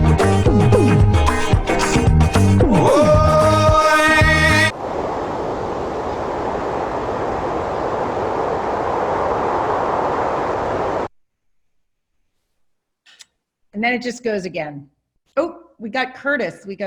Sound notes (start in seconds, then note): 0.0 upbeat music; 4.7 air whooshing